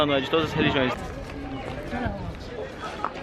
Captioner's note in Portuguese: som de conversas